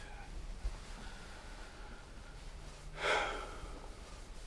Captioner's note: sighs